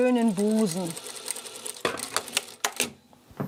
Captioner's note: sewing machine chattering